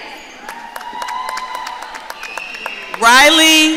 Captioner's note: audience cheering